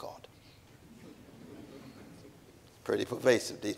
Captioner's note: audience chuckling